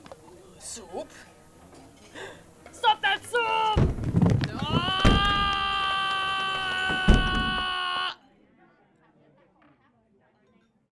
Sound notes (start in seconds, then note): 2.0 gasp; 8.5 scream cuts off suddenly